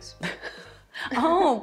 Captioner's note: chuckles